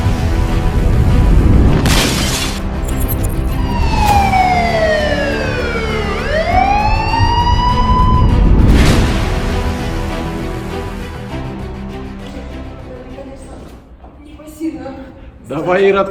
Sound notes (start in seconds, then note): 2.8 clinking glass; 3.2 siren sound